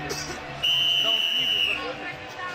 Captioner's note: whistle blows